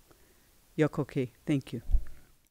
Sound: non-english speech

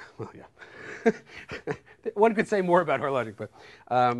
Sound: laughs

